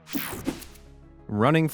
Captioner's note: screen buzzing